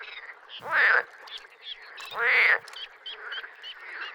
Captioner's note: frog croaking